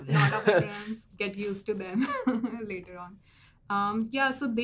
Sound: laugh

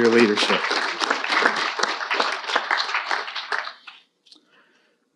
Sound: audience applauding

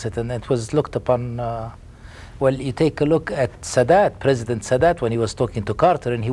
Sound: none

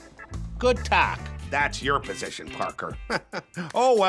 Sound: chuckles

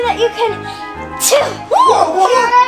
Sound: sneezing

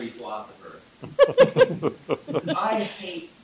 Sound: laughter

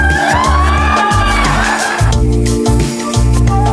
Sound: audience cheers

